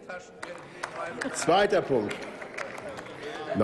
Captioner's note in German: Applaus